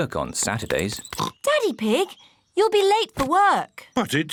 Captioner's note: oinks